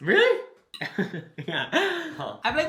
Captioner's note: laughs